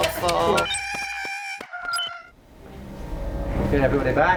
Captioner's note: squawk